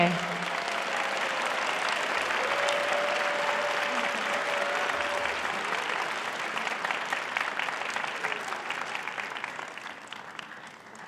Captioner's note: audience applauding